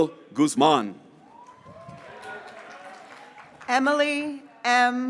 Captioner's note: graduates cheering